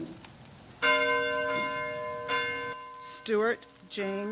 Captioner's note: bell tolls